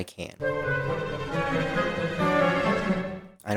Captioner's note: Sims 4 uncomfortable sound